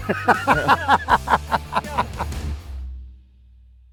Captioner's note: laughing